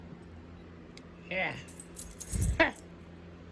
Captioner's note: scoffs